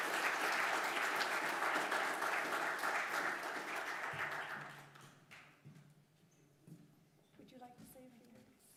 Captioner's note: applause